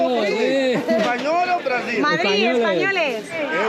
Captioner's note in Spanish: Acento portugués